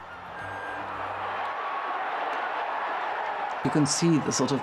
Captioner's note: crowd cheering